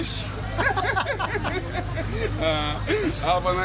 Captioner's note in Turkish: kahkaha